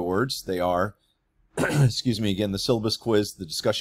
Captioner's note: throat clears